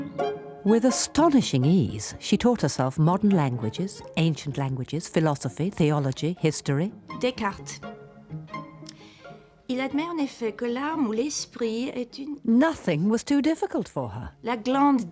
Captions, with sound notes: WITH ASTONISHING EASE, SHE TAUGHT HERSELF MODERN LANGUAGES, ANCIENT LANGUAGES, PHILOSOPHY, THEOLOGY, HISTORY... DESCARTESDECARTES... ( continues reading in French ) NOTHING WAS TOO DIFFICULT FOR HER.